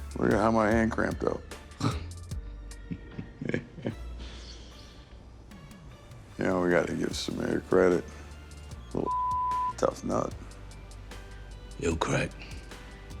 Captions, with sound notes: Look at how my hand cramped up. (chuckles) You know we gotta give some Sameer credit. Little (beep) tough nut. - He'll crack.